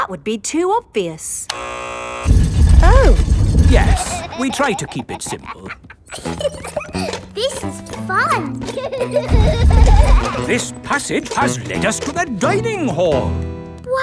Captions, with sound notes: That would be too obvious. -(BUZZER SOUNDS) -Oh. Yes, we try to keep it simple. (GIGGLES) This is fun! This passage has lead us to the dining hall.